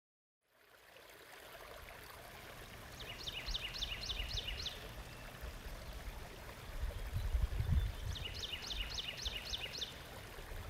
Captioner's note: birds chirping and water flowing